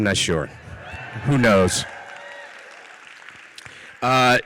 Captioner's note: audience cheers